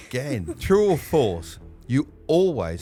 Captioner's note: laughing